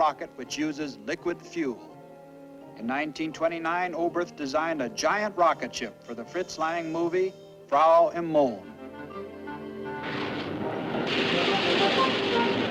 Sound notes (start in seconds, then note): 10.0 rocket engine roaring